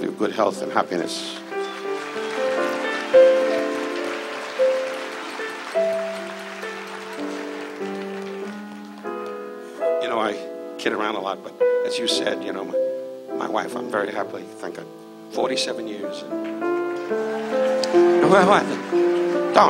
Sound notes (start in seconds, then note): 1.4 audience cheers; 17.0 audience cheers